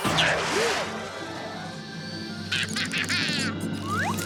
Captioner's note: laughing